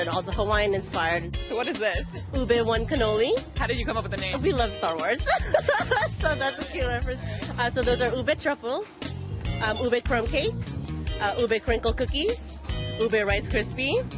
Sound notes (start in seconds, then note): 5.2 laughs